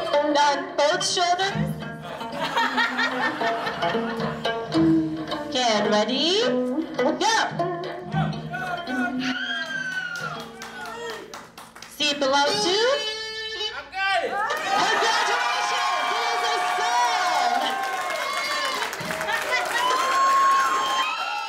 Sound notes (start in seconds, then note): 2.0 laughing; 9.2 guests scream and clap; 14.2 guests cheer; 17.8 guests cheer and applaud